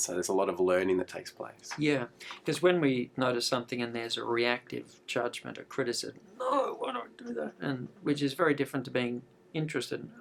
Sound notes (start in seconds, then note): 6.3 groaning